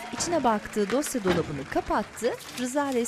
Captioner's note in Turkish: Fonda alkış sesleri; Dolap kapanma sesi; Kağıt sesi